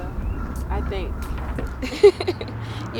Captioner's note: laughs